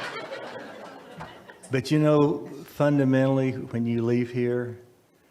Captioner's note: audience laugh